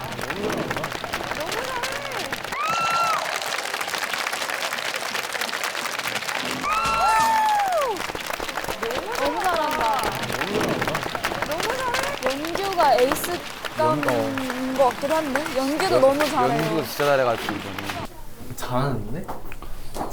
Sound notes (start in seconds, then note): 2.6 can't hold back the loud cheers